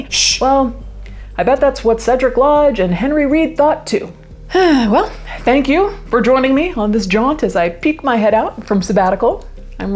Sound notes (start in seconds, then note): 4.7 exhales deeply